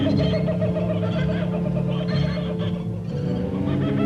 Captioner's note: animal sounds